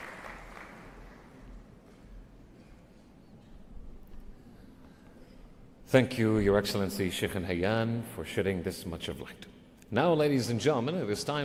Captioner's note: applause